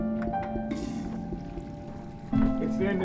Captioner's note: toilet flushes